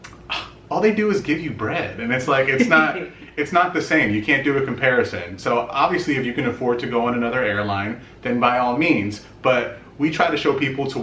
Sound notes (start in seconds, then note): 0.3 sighs; 2.6 chuckles